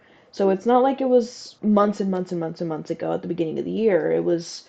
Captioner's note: none